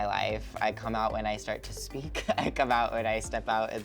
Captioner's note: laughs